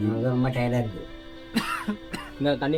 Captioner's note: coughs